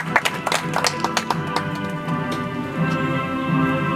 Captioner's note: audience applauds